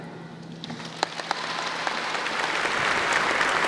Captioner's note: applause